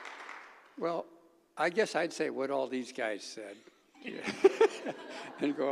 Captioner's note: applause; laugh